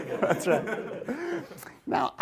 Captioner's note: laughing